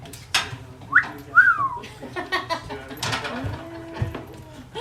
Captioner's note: laughs; wolf whistles